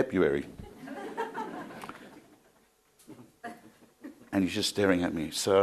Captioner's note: crowd laughing